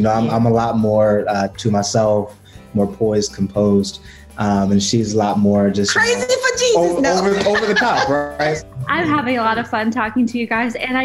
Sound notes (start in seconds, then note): 7.0 laughter